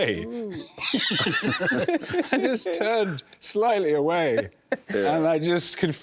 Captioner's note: laughter